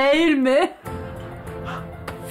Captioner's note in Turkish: Gülme efekti